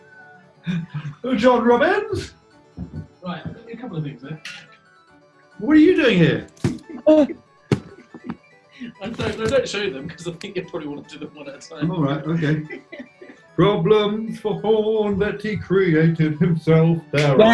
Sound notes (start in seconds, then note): 0.6 laughing; 2.8 approaching footsteps; 7.0 gasps; 8.2 laughing